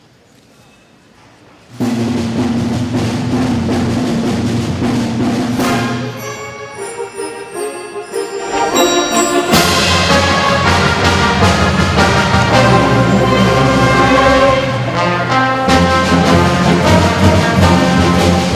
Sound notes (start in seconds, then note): 0.0 drumming; 5.8 bell ringing; 9.8 dramatic music